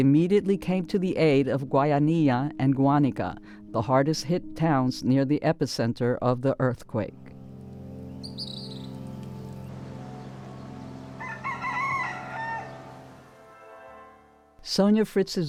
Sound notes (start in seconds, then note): 9.9 birds chirping; 12.4 rooster crowing